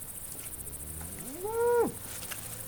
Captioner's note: cow moos